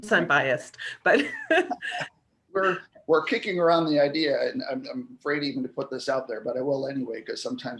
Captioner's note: laughter